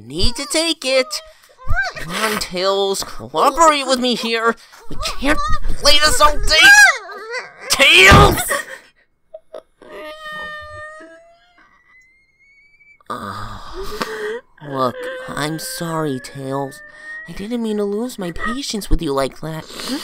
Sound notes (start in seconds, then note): 9.4 cries; 13.8 groans